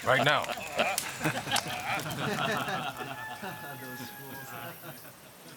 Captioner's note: men laughing